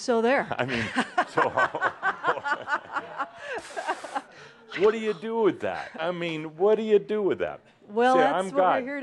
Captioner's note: laughter